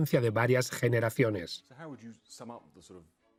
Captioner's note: voiceover